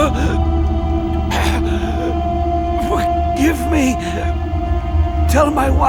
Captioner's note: chokes